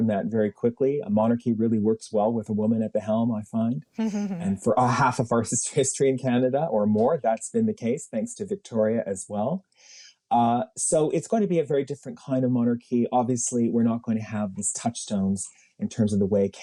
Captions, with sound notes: You don't, kind of, move on from that very quickly. A monarchy really works well with a woman at the helm I find. [chuckles] And for half of our history in Canada or more that's been the case, thanks to Victoria as well. Ah so, it's going to be a very different kind of monarchy, obviously, we're not going to have these sort of touchstones.